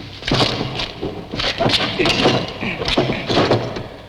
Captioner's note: groaning